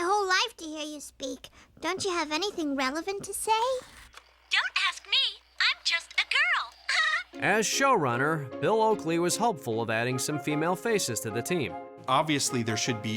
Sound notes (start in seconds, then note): 7.7 giggles